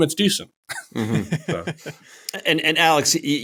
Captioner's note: laughter